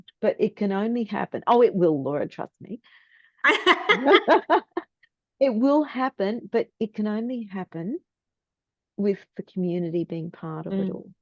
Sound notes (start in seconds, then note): 3.4 is laughing